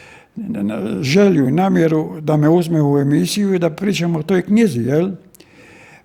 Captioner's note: coughs